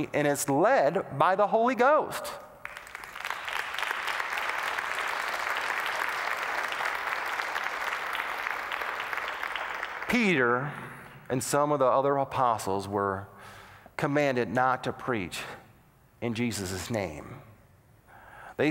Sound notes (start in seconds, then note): 2.6 applause